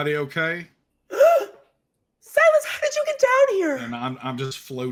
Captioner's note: gasps